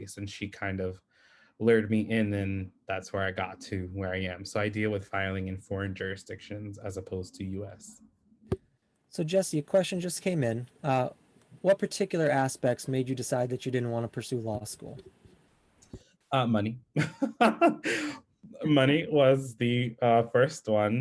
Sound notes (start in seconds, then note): 16.9 laughs